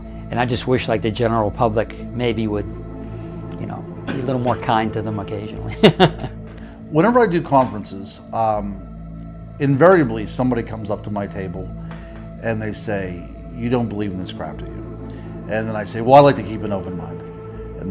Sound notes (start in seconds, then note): 5.6 laughs